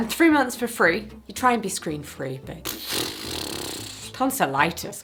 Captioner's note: blows raspberry